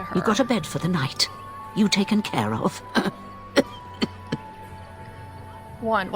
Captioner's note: coughs badly